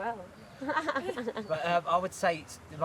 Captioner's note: laughing